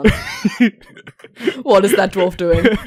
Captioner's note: Rik laughs